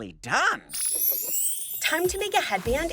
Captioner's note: chime